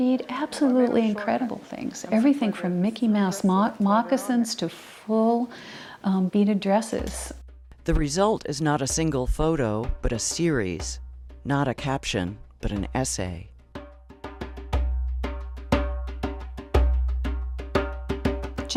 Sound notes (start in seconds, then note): 7.9 voiceover; 13.6 drum music